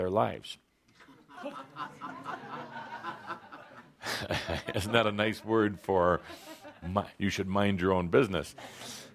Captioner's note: laughter; chuckles